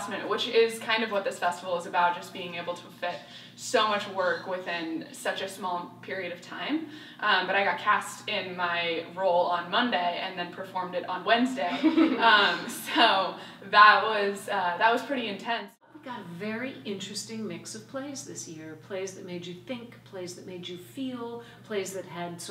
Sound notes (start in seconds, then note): 11.6 laugh